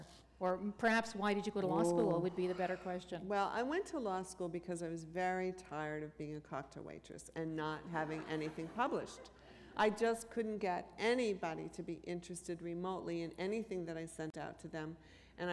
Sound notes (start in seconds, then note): 7.9 laughter